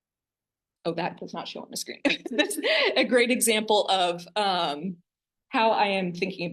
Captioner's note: laughter